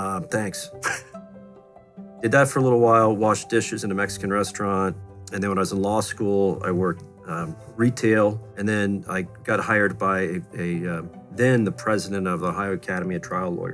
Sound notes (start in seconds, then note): 0.8 laughs